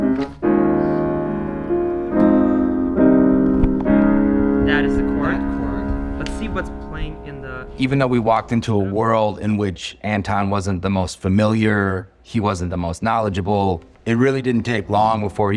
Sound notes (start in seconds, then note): 2.1 humming